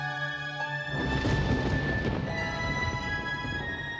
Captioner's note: distant thunder rolls